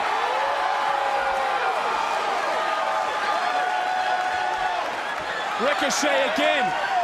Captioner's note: crowd cheers